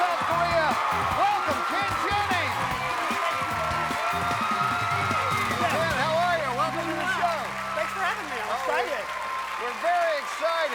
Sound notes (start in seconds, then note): 4.7 cheers and applause